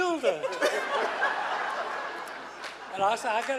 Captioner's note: laughing